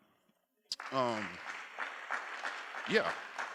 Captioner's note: applause